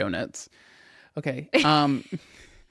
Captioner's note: laughs